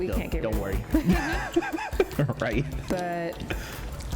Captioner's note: laughs